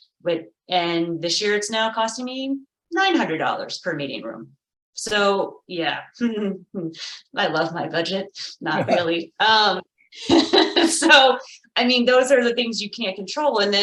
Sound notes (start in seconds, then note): 5.9 chuckles; 8.7 light laughter